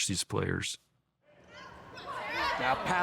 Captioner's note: players chatting